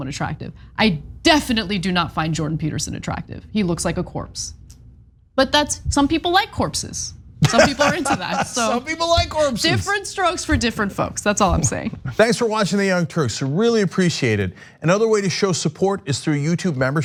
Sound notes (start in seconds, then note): 7.4 laugh